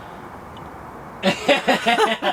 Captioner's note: sound of distant highway; laughter